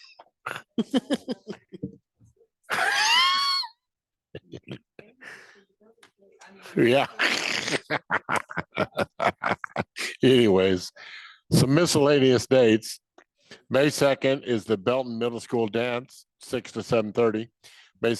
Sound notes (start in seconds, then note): 0.7 board members laughing; 6.9 laughs